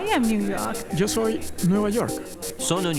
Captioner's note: Spanish